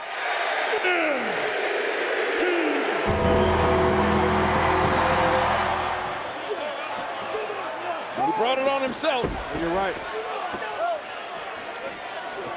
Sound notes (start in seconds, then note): 3.0 ominous music; 4.0 audience cheers